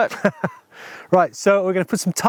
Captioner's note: laughing